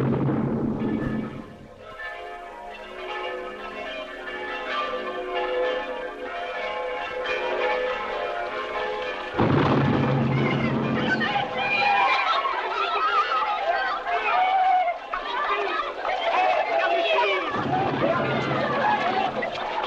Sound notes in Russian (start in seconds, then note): 0.7 колокольный звон; 14.0 крики радости